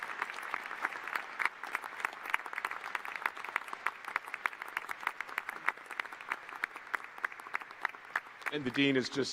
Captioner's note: applause